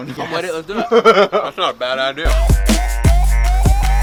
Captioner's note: laughter